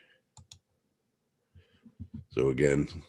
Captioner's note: mouse clicking